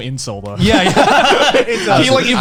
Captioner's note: laughing